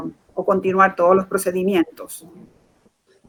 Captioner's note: speaking in Foreign Language